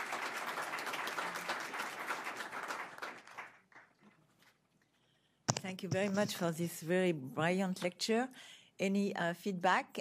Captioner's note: applause